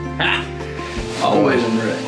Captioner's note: laughs